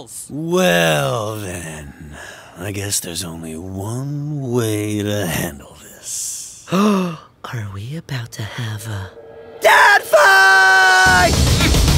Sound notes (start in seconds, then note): 6.9 gasps